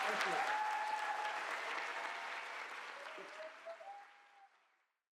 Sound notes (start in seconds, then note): 2.3 applause fades out